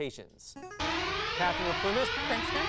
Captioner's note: device sound; alarm sound